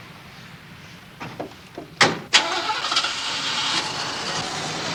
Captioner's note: engine rumbling